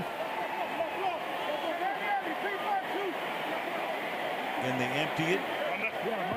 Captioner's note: onfield chatter